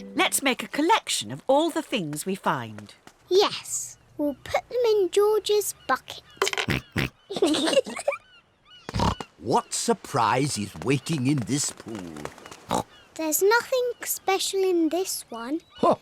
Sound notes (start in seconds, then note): 7.1 oinks; 7.3 both giggle